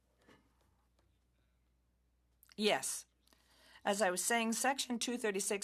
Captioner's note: speaking French